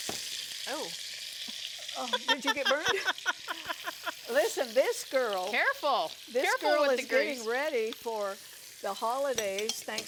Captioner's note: sizzling sound